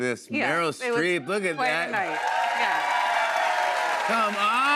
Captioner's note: cheers and applause